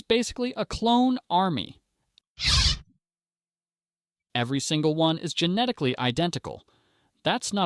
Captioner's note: SFX: Star Wars lightsaber sound